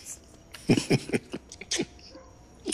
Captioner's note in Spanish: Risas